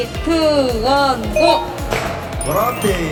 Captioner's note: heart beating